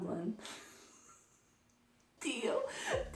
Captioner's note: laugh